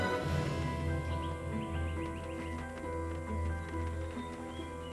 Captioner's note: wings fluttering